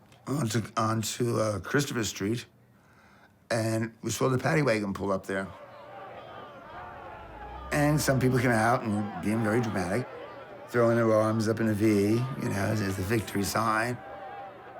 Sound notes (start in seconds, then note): 6.6 clamoring